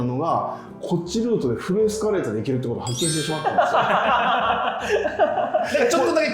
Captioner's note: laughing